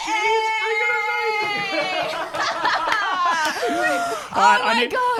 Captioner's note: laughing together